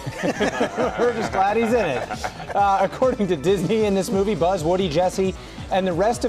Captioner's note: laughs